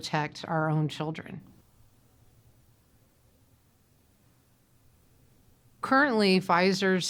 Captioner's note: silence